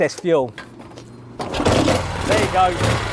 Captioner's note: motorcycle engine starts